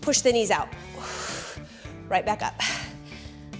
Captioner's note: exhales